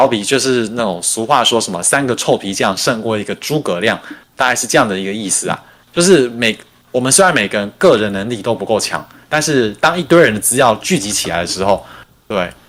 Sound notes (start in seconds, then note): 0.0 non-english speech